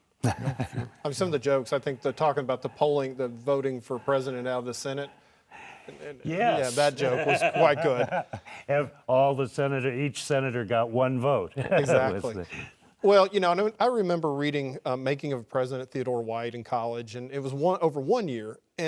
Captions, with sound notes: (laughing) - Yup, sure. - I mean some of the jokes, I think they're talking about the polling the voting for president out of the Senate. - Yes. - Yeah that joke was quite good. - All the senator, each senator got one vote. (laughing) - Exactly. Well, you know, I remember reading Making of a President Theodore White in college and it was over one year